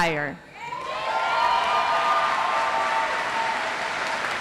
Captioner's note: audience applauds